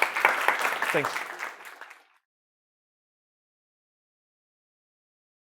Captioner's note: applause